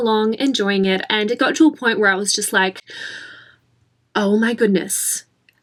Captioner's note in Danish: gisp